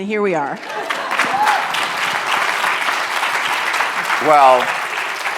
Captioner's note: cheers and applause